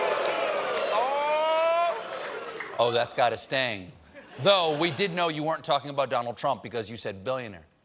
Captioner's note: audience reacts